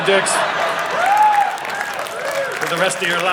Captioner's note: audience laughing